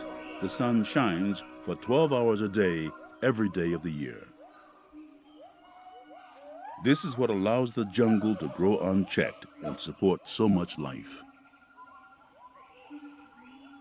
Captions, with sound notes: the sun shines for 12 hours a day every day of the year. [ANIMALS CALLING] This is what allows the jungle to grow unchecked and support so much life.